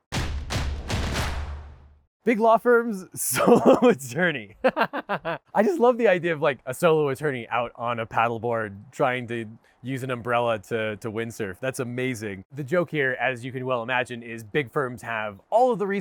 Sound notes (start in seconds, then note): 0.0 drums beat; 4.5 laughs